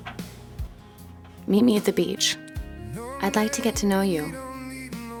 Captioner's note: Justine, voice-over; serious music